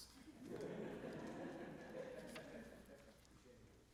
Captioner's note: audience laughing